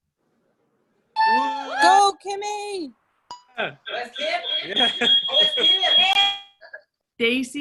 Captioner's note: cheering